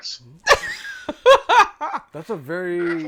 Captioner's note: laughing